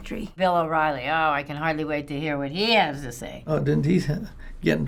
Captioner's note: sarcastic